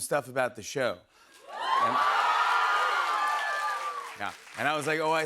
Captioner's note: cheers and applause